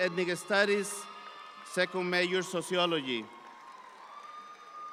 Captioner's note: audience applauds